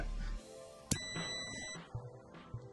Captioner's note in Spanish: sonido: piiiiii